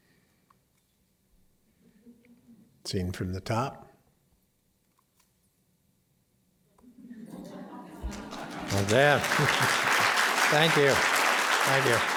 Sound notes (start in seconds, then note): 6.8 laughter; 8.0 applause